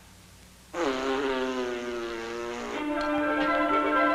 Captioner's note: razzes; laughing